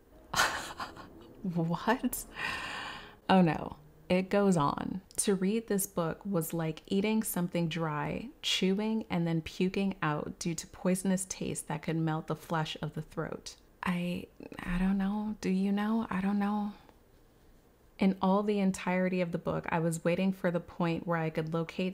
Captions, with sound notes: (laughs) What‽ Oh no, it goes on. To read this book was like eating some thing dry, chewing and then puking out, due to poisonous taste that could melt the flesh of the throat. I… I don’t know. Do you know? I don’t know. In all the entirety of the book, I was waiting for the point where I could locate